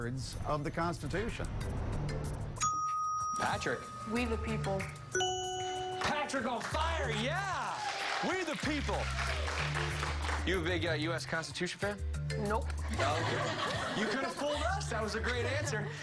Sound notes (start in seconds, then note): 9.1 applause; 14.7 laughter